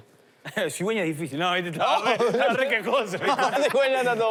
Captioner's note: laughter